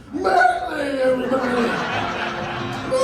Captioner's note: laughter